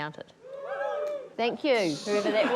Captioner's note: audience whoops; laughter